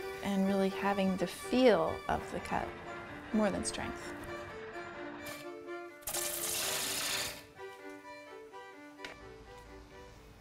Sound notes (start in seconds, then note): 4.8 upbeat music; 6.3 lathe buzzing